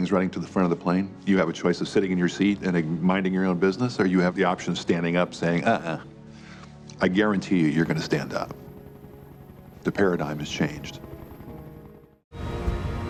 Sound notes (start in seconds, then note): 7.8 chopper thumping